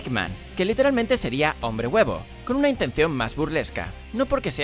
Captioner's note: in Spanish